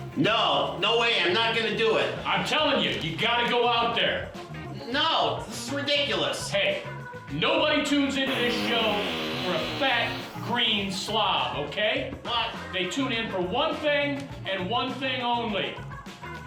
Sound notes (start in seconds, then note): 8.2 fart sound from can